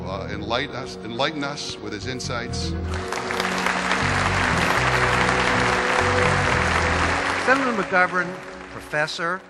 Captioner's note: applause